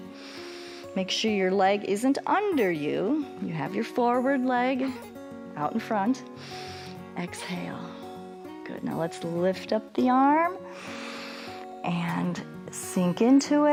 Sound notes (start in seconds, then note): 0.1 inhales; 6.3 inhales; 10.7 inhales